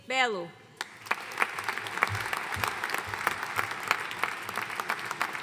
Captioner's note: audience applauding